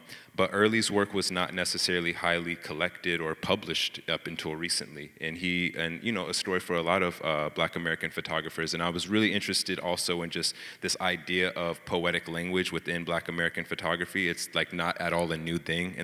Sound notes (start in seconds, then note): none